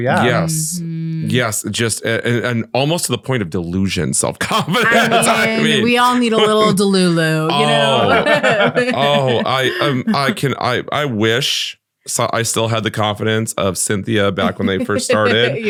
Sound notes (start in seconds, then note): 4.4 all laughing; 7.8 laughing continues